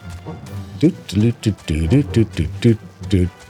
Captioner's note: humming